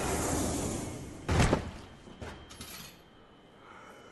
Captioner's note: thudding and clattering